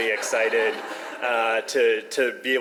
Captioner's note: audience laughs